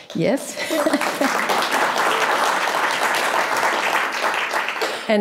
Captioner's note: audience clapping